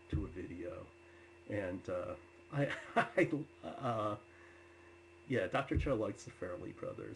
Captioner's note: laughs